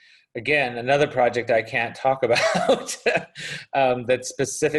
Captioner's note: laughs